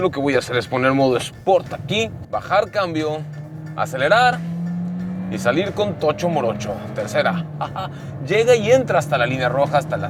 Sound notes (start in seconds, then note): 1.2 engine roaring